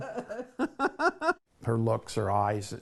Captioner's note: laughing